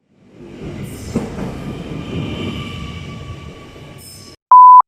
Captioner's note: loud train passing